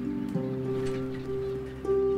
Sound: sea birds

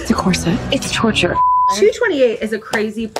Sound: beep

